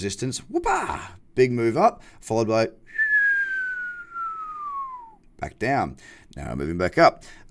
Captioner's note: whistling